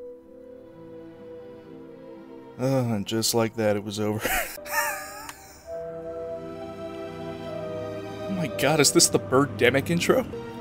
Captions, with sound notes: Ohhh, and just like that, it was over. *laughter* Oh my God, is this the Birdemic intro?